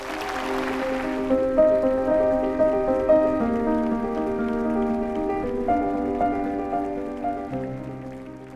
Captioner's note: applause